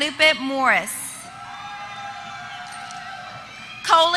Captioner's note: applause